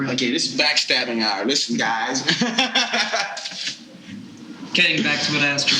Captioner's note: laughing